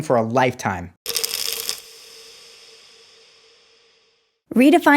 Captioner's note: pills rattling